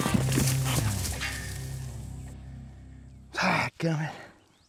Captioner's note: thud